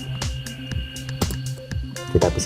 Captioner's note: click